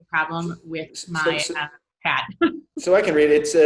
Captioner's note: chuckles